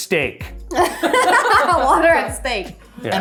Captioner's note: laugh